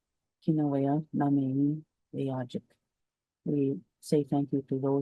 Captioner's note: speaks in Cree